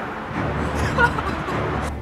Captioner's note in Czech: Smích